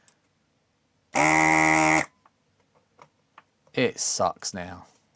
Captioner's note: buzzer